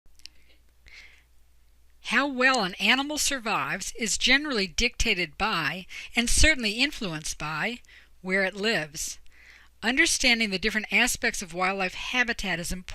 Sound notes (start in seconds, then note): 1.7 voiceover